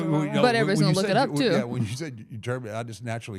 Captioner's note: chuckling